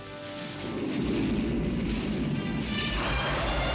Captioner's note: whirring